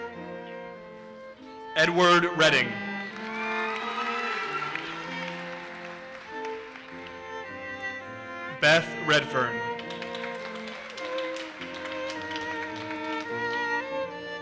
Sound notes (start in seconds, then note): 2.8 audience cheers and applauses; 9.6 audience applauses